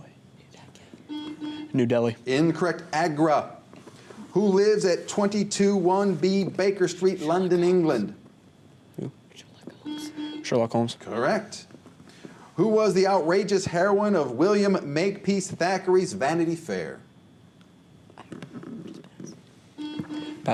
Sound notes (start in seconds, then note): 0.1 whispers; 9.1 whispers; 9.8 buzzer; 18.3 whispers